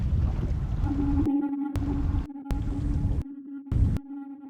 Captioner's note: beeping